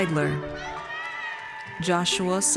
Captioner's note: audience cheers